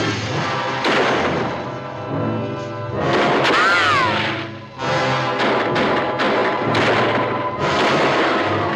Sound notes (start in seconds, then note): 0.7 gun firing; 2.5 tense music; 5.2 guns firing